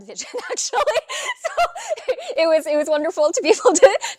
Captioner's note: laughing